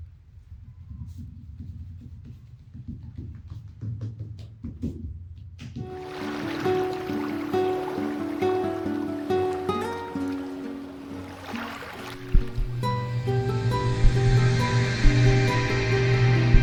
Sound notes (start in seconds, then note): 6.3 gentle music; 9.3 water splashing; 13.1 gentle music